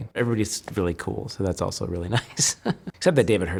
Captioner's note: laughs